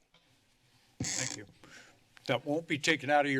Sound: squeaking noise

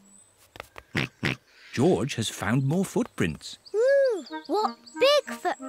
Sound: snorts

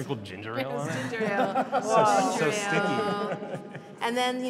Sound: laughs

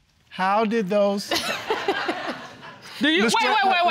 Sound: audience laughing

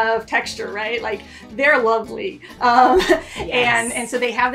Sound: laughs

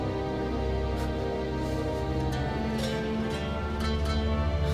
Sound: sniffles

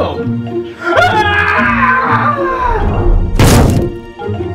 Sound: screams; body thuds

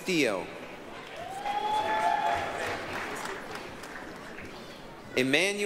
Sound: applause, cheering

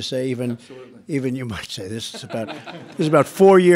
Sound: laughter

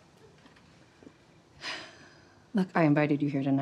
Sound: sighs

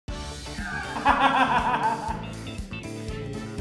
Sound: laughs

